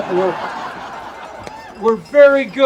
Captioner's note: audience laughing